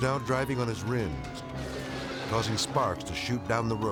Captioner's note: rims scraping